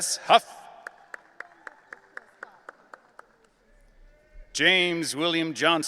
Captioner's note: audience applauding